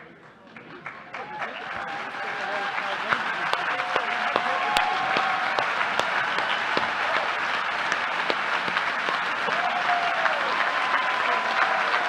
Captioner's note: applause